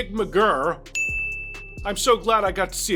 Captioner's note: ding